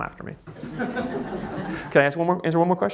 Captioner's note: audience laughing